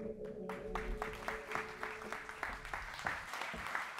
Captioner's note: audience applauds